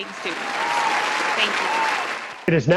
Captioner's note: applause